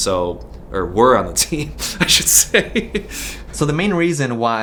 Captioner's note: laughs